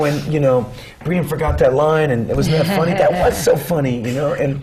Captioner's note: laughter